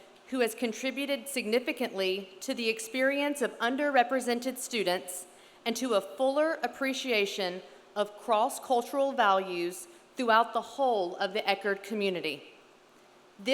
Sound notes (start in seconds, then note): none